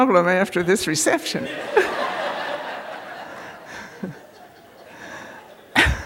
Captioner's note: laughter